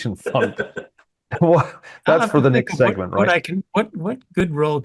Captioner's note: laugh